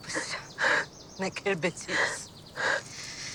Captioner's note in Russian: говорит по-французски